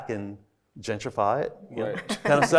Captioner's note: everybody laughing